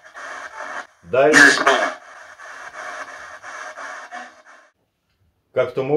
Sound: male spirit voice

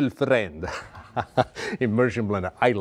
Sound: chuckles sinisterly

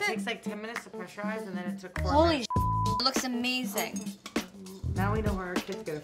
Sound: beep

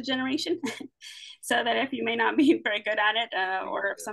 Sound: chuckles

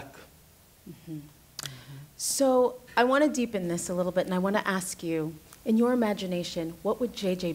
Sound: smacks lips

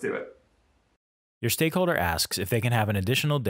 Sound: voiceover

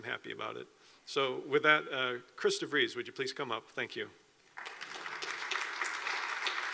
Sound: applause

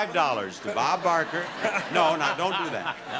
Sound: audience laughing

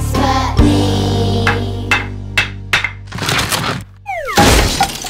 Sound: hammering; cracking and crashing

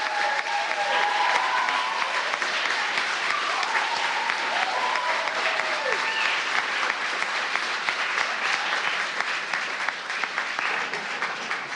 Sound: applause

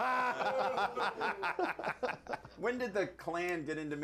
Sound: laughter

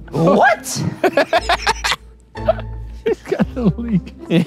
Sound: laughing

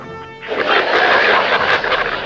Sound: laugh

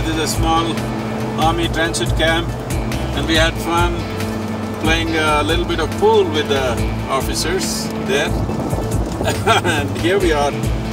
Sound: laughs

